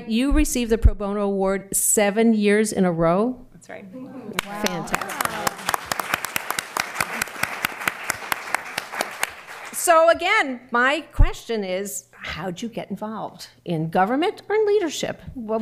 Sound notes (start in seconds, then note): 4.3 applause